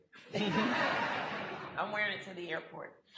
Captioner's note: audience laughter